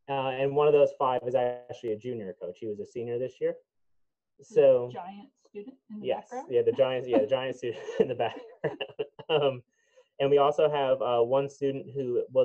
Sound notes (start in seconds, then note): 8.5 laughing